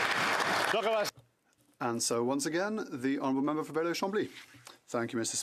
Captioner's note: some Applause